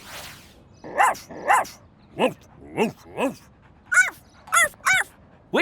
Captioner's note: barking